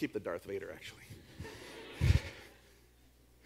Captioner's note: audience laughs